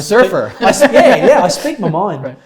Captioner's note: laughs